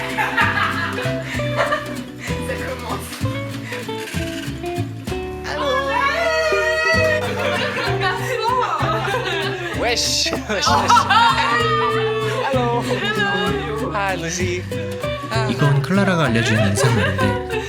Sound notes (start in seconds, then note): 0.0 loud laughter; 5.5 cheering